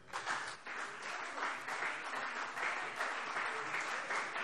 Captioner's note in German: Beifall CDU und vereinzelt BÜNDNIS 90/DIE GRÜNEN